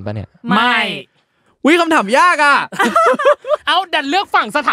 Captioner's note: laugh